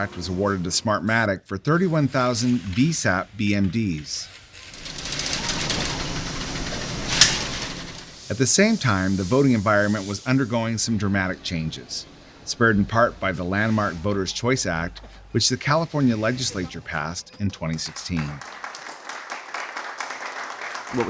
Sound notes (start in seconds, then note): 3.6 machines clacking; 17.4 applause